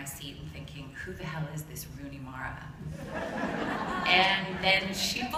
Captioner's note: laughter